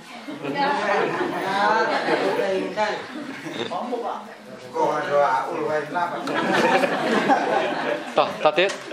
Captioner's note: chattering